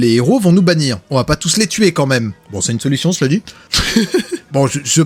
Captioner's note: laughs